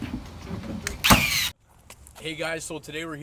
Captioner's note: nail Gun